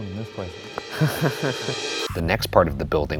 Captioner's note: chuckles